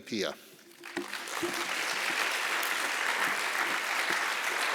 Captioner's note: applause